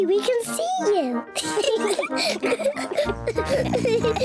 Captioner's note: oinks; both laugh